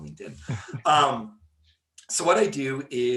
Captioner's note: laughing